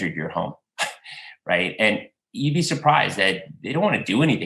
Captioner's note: laughter